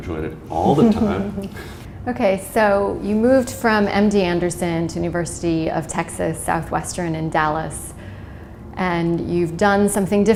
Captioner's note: chuckle